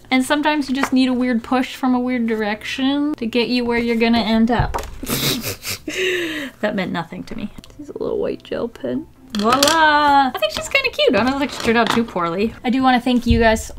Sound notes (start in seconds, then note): 5.0 sniggers